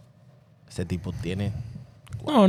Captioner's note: speaking In Foreign Language